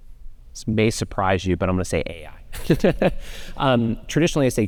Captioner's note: laughs